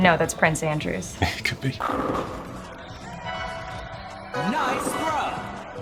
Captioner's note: bowling pins clattering